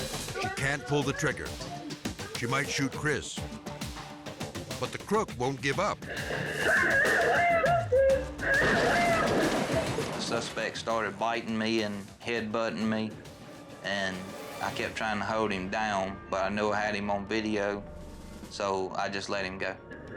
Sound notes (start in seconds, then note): 3.4 dramatic music; 8.5 products crashing; 8.6 gun exploding